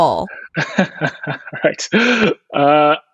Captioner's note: laughing